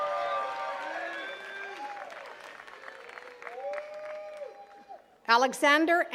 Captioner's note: attendees cheering and clapping